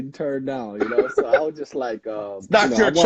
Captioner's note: laughing